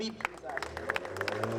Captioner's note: audience applauding